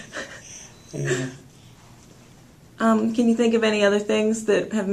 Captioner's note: laughter